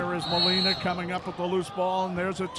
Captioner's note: referee whistling